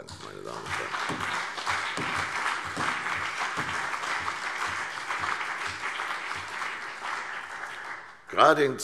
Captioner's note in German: Beifall CDU und BÜNDNIS 90/DIE GRÜNEN